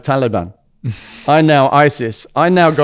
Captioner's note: laughs